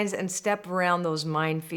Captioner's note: none